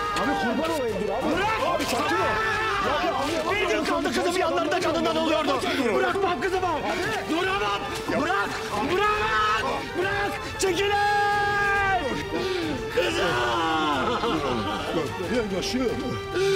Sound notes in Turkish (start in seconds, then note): 12.9 Ağlıyor